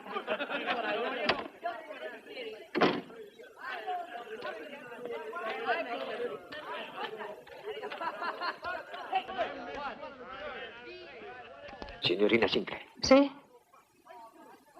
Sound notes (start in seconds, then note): 2.7 door opens, closes; 5.1 indistinct chatter